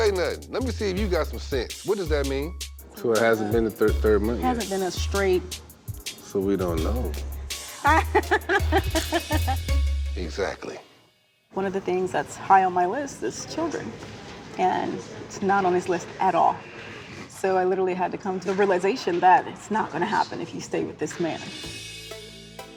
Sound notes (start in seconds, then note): 7.7 laughs